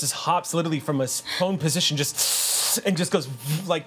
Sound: inhales sharply

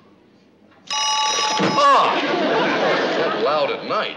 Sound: phone ringing

